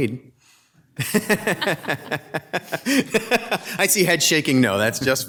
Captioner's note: laughter